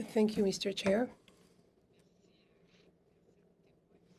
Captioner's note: speaking French